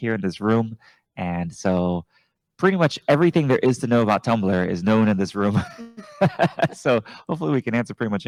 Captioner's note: laugh